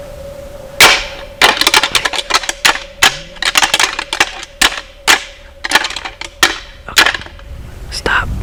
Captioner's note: sound of rattling